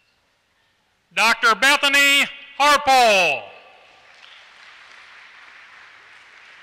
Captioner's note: applause